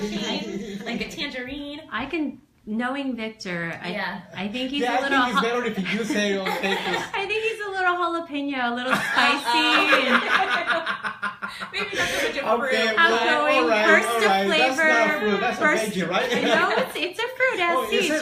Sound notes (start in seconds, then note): 3.6 lots of laughter; 8.8 laughter